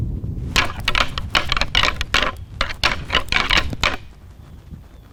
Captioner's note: antlers rattling